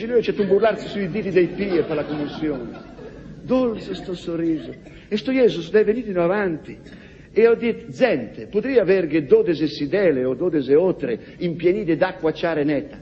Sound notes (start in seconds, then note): 2.8 laughs